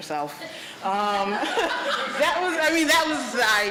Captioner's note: laughter